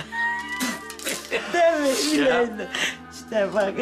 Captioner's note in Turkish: Gülme Sesi; Gülme sesleri